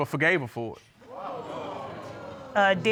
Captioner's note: audience exclaiming